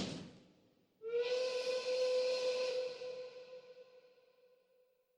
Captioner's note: train whistle blows